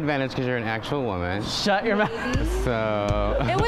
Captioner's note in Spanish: Riendo